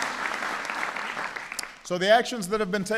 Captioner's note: applause